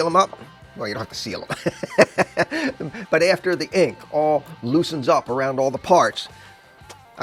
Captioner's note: laughter